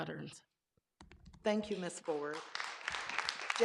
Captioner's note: clapping